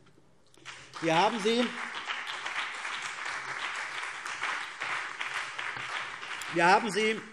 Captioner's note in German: Beifall CDU und BÜNDNIS 90/DIE GRÜNEN